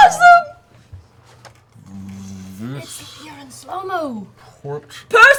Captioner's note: slow-mo voice